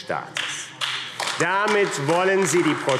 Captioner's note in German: Beifall AfD